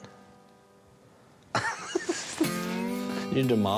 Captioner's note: laughs